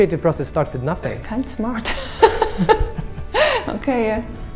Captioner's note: laughs